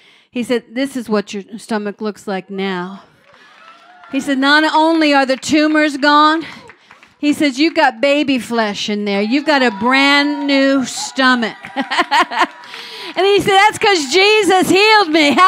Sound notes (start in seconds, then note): 3.1 crowd; 3.2 cheering and clapping; 10.6 laughs